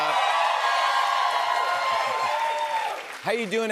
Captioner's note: cheers and applause